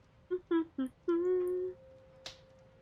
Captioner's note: humming